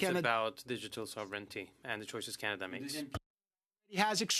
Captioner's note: speaking French